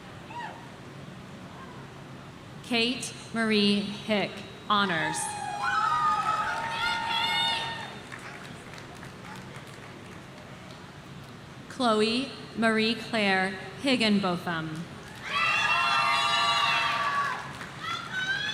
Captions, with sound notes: Kate Marie Hick, Honors. (audience cheering) Chloe Marie Clare Higginbotham. (audience cheering)